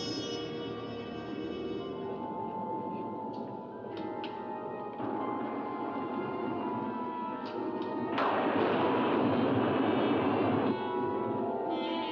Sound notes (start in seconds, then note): 0.0 suspenseful music; 8.1 loud thunder; 10.7 suspenseful music